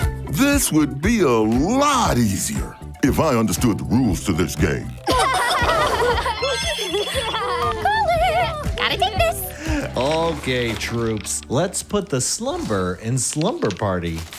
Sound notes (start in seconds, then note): 6.4 phone ringing